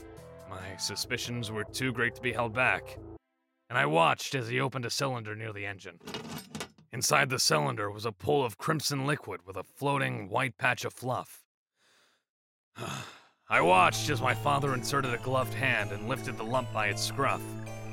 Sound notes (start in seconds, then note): 12.7 sigh